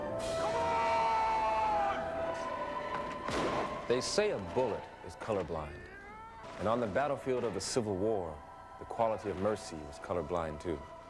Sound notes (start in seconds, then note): 3.2 gunshots firing